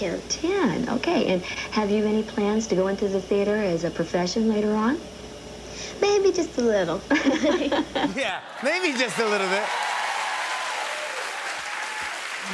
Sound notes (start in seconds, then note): 7.1 laughs; 10.3 cheers and applause